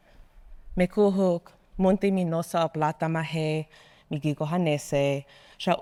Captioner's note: speaking in foreign language